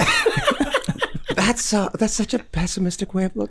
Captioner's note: group laughs